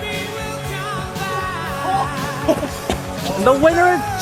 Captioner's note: yelling and laughing